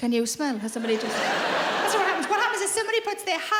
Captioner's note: audience laughing